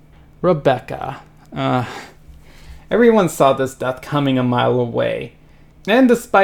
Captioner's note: groan